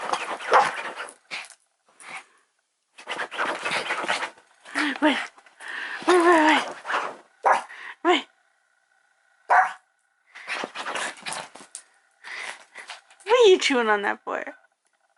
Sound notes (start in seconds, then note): 0.0 scratches bed; 0.0 barks; 2.9 scratches bed; 9.4 bark; 9.4 barks; 10.3 scratches bed